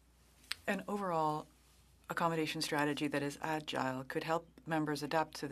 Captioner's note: speaking French